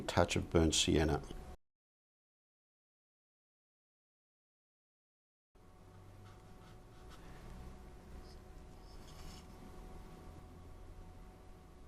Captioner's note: silence